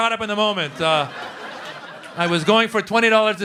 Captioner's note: laughter